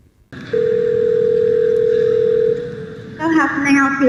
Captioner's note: phone ringing